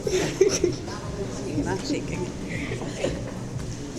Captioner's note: laughs